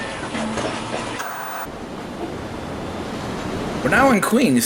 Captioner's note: white noise scratching